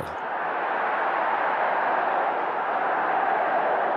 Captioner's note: crowd chanting